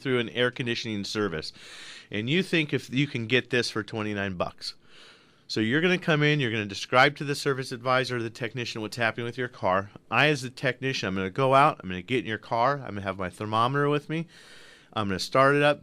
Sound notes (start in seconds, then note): none